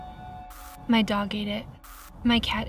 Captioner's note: static crackles